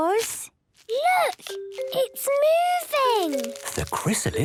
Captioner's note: whispering